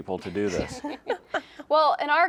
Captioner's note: laugh